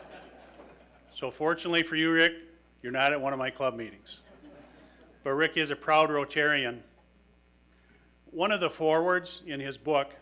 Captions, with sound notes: (audience laughing) So fortunately for you, Rick, you're not at one of my club meetings. But Rick is a proud Rotarian. One of the forwards in his book,